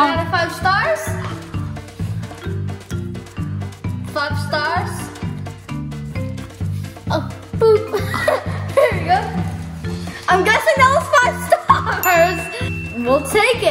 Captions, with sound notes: What out of five stars? Five stars? (laughing) Boop! There you go. I'm guessing that was five stars! We'll take it.